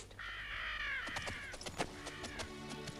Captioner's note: gentle music; buzzards squawking